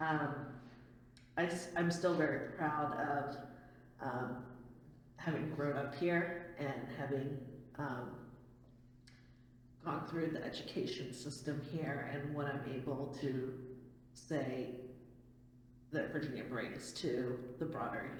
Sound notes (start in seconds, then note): none